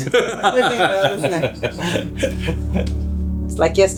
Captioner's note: laughter